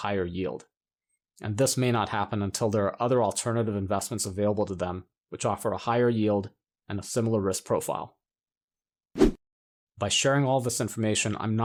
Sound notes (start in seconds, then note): 9.2 whooshing tone